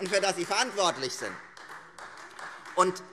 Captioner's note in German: Beifall Freie Demokraten